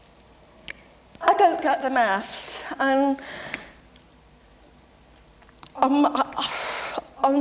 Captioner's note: exhales in frustrating